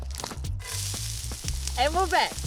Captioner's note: kōura sizzle